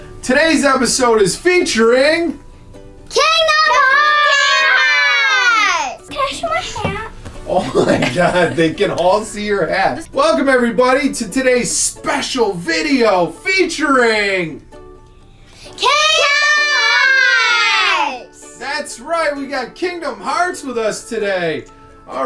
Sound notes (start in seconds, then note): 3.7 screaming in unison; 7.5 mom laugh; 15.8 screaming in unison